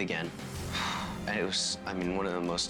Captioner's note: exhales